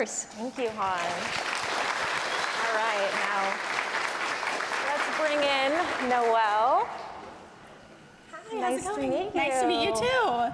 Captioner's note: applause